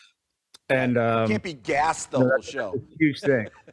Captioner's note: laughs